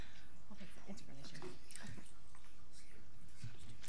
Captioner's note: people murmuring